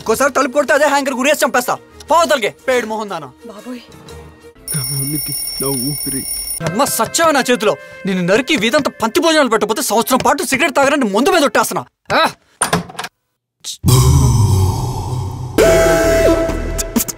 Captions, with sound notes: If you knock again, I'll hang you to death. Get lost, you miserable woman! Oh God! (Alarm rings) - My existence, my life, my goal.. You'll die in my hands today. I'll kill you and throw a feast to our neighbors. - (Door knocks) Or I swear on alcohol that I'll quit smoking for a year. - (Door knocks)